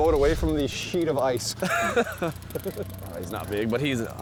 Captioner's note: laughter